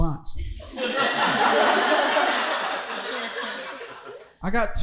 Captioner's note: audience laughing